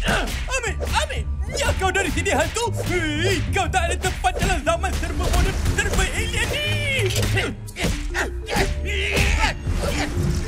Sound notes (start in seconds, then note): 7.1 Adu Du and Probe grunting